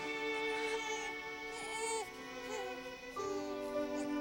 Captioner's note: baby crying